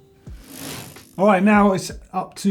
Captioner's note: bicycle gear whirs